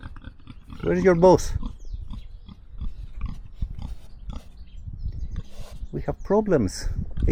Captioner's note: pig snorting